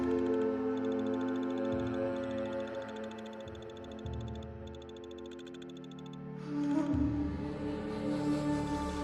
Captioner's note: nervous whistling